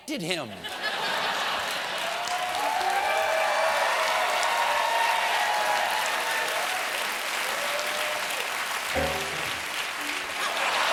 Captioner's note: laughter; cheers and applause; laughter